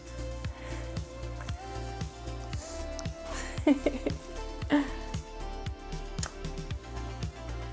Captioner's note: laughs